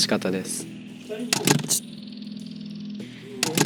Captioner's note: clack